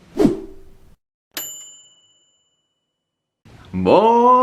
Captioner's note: ping